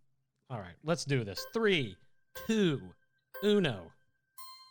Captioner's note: melodic timer